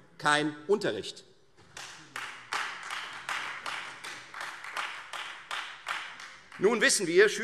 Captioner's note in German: Beifall Freie Demokraten